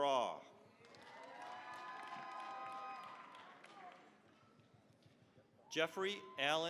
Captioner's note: cheering, applause